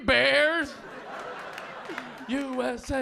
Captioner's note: audience laughing